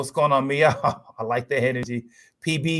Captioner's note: laughs